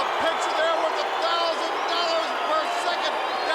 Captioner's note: crowd cheering